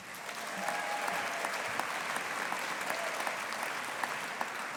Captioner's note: audience applauding